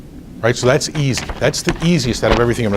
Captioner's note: rustles papers